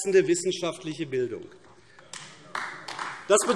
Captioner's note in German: Beifall AfD